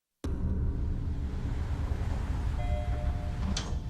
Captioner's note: elevator bell dings